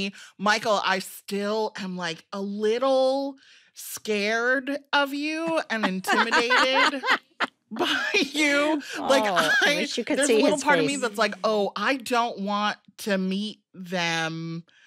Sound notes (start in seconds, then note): 5.6 laughing